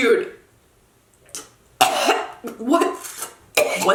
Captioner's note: coughing and gagging